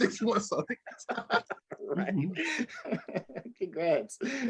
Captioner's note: laughter